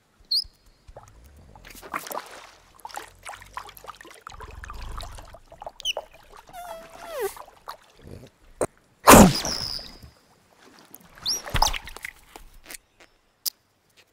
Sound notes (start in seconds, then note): 0.2 bird chirping; 6.5 caterpillar farting; 9.0 fox sneezing; 9.4 bird chirping